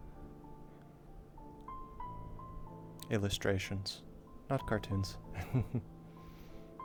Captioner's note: nervous laughter